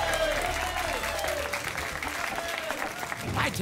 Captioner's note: applause and cheering